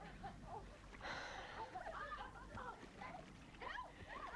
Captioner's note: Hundra sighs